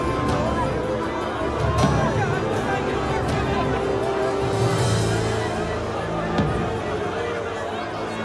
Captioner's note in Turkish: Kalabalık bağrışma sesleri